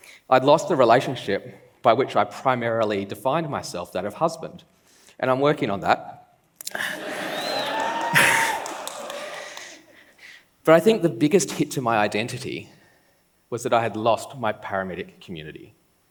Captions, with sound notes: I'd lost the relationship by which I primarily defined myself, that of husband, and I'm working on that. -[laughs] -[laughs] [claps] But I think the biggest hit to my identity was that I had lost my paramedic community.